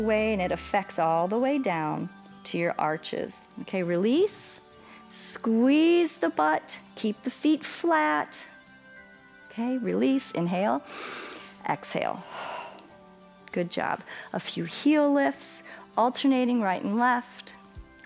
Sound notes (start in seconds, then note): 10.8 exhales; 12.2 inhales